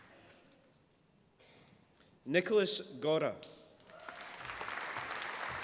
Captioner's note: applause